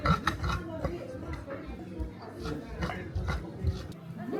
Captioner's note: grumble